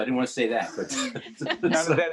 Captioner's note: laughing